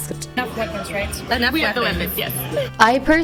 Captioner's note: hoots